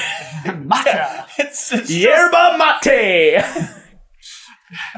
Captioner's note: laughing